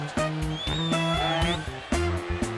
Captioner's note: crowd cheering